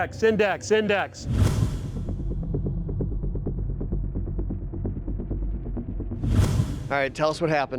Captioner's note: tense music; whooshing; whooshing